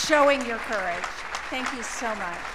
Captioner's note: applause